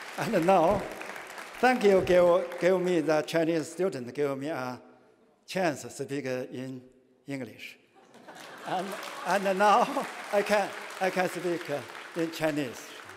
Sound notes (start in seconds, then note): 7.9 laughter